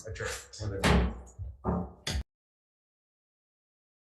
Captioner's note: gavel bangs